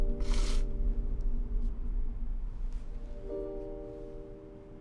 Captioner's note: sniffles